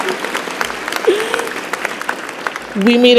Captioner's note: applause